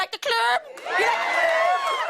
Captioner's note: all cheering